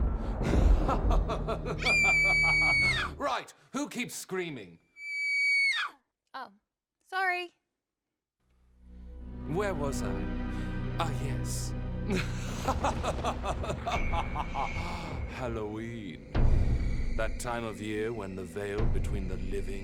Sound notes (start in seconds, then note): 0.0 thunder rumbles; 0.4 laughs creepily; 1.8 screaming; 5.0 screams; 12.0 laughs creepily